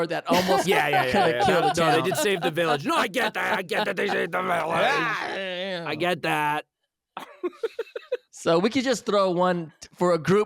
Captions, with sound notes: Yeah, yeah, yeah. They did save the village. No I get that, I get that they saved the village. I get that. [laughing] So we could just throw one for a group, group bending